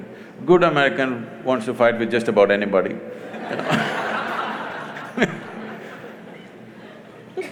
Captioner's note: laughter